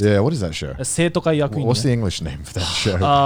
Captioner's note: speaking in a foreign language